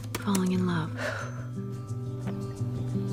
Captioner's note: exhales